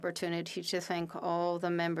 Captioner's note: speaking French